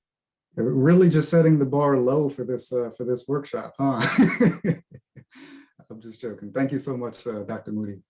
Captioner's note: laughing